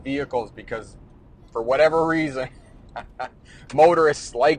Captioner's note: laughs